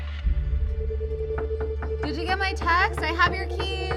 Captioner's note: gentle suspenseful music; Eden knocking